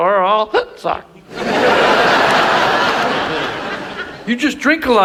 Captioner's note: audience laughs